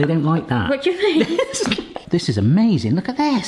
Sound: laughing

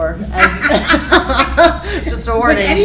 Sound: laughter

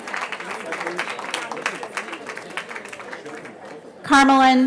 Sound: cheering

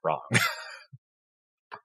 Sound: laugh

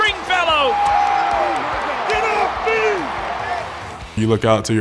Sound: crowd roaring

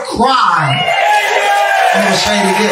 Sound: congregation cheering and clapping

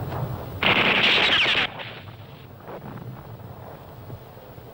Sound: bullets ricocheting

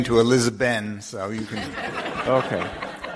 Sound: group laughing

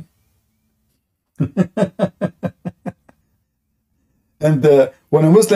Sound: Ketawa

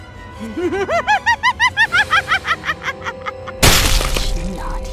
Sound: evil laugh

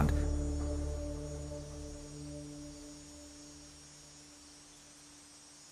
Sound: wind blowing softly

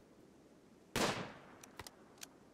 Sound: gunshot

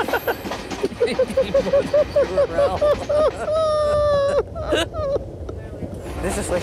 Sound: manic laughter

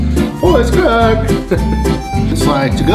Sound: whimsical music; laughs

